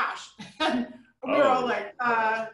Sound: chuckling

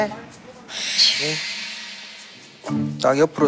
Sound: hesitant

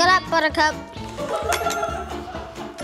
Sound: laughs; whimsical instrumental music

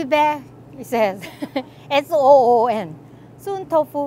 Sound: readers laugh

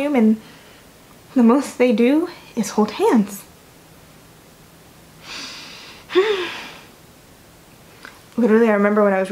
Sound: inhales with simmering rage

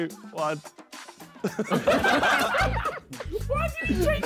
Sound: men laughing

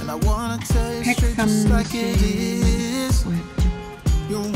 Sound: speaks Korean; upbeat music continues

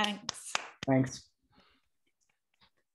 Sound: claps

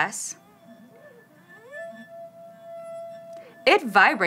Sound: glass squeaks

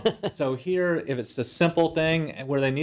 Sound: laugh

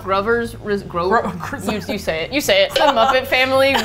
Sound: whispering; laughs; stutters; laughs

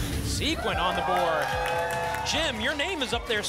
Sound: applause and cheering

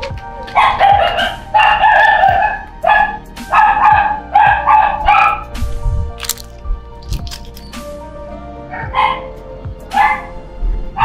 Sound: dog barking

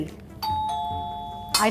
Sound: door bell

